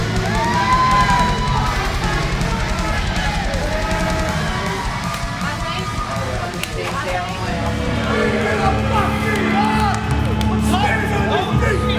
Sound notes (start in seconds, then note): 0.0 punching; 0.0 rock music playing; 0.2 crowd cheering; 0.2 rock music playing; 5.0 clapping; 6.6 clapping; 7.5 rock music playing; 9.3 clapping